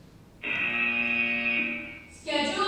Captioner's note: buzzer